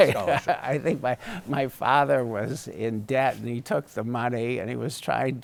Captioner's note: laughs